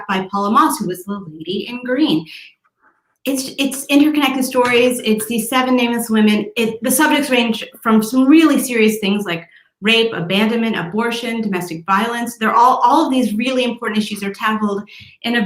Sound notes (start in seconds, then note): none